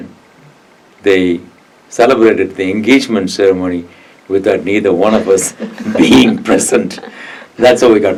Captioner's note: laughs